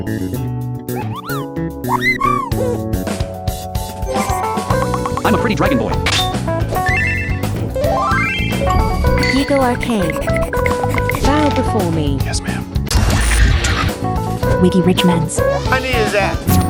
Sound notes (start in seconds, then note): 1.9 Chocobo cry; 1.9 Moogle cry; 4.0 ffxiv sfx; 9.2 frantic panting; 9.2 Xbox achievement